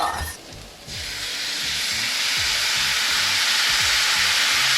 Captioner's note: pan sizzling